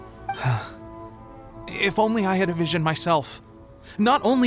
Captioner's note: sigh